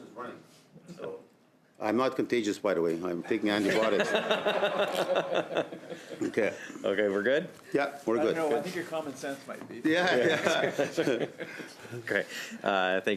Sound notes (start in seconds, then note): 10.0 laughter